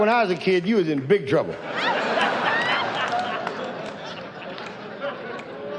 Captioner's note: audience laughs